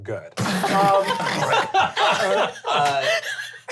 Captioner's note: all laugh